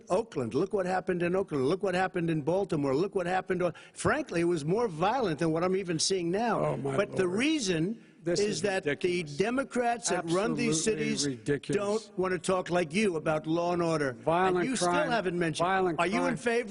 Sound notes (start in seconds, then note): 10.0 arguing